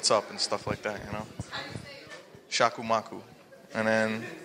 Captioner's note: speaking foreign language